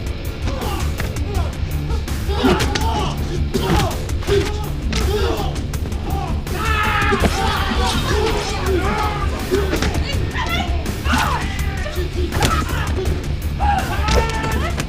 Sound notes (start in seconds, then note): 0.5 people grunting; 2.8 thudding; 6.0 man yelling; 12.3 thudding